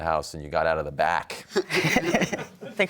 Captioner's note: audience laughs